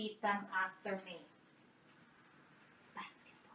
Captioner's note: whispers